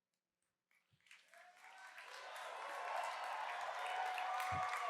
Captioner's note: cheers and applause